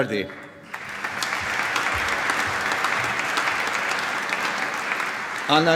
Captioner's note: applause